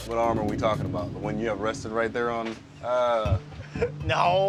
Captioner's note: groans; laughs